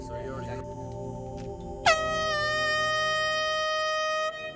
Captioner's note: horn blows